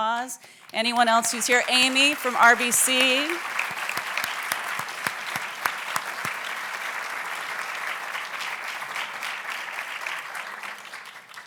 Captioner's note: applauds